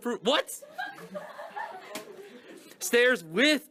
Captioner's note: director laughs in the background